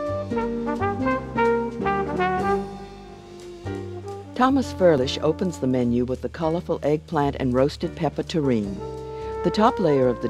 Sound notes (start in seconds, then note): 0.1 upbeat jazz music; 5.4 voiceover